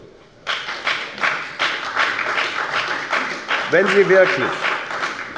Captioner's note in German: Beifall bei der FDP und bei Abgeordneten der SPD